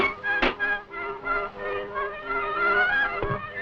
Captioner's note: bucket bangs